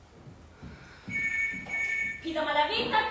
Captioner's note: phone rings